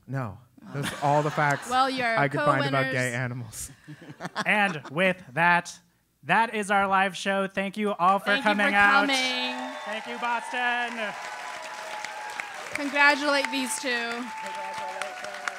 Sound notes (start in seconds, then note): 3.8 laugh; 10.4 applause